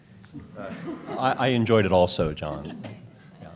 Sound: laughter

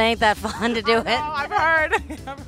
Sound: laughing

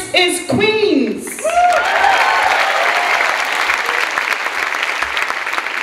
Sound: clapping and cheering

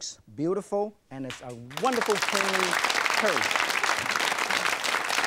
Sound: audience clapping

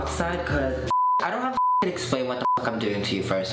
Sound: beep

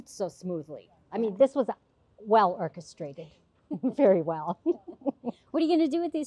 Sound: laughs

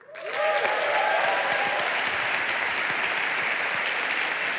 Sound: applause

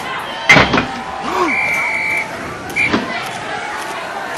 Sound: exhaling and Blowing Whistle; crowd Cheering and Glammoring

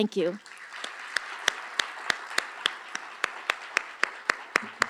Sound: applause

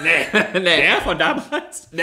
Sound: laughs

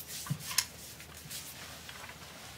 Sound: none

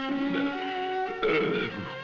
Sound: gentle instrumental music; grunting

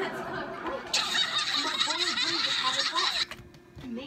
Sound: laughter

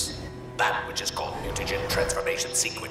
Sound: none

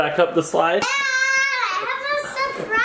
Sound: screaming

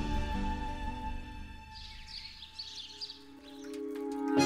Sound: birds chirping

